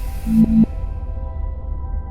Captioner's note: eerie atmospheric music; device beeping